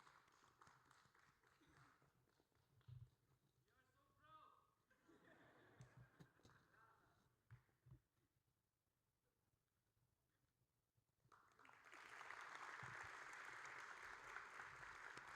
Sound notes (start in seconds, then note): 4.0 person yelling; 5.1 audience laughing; 11.3 audience applauding